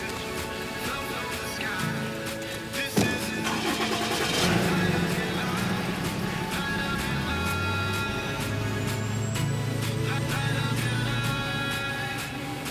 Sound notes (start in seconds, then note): 2.9 door closes; 3.0 truck engine starting